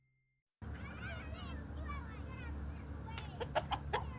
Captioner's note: children chattering; chicken clucking